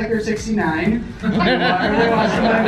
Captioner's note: laughter